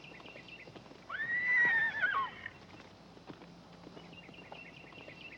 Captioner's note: Danny whinnying